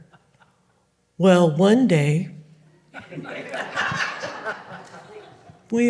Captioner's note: audience Laughing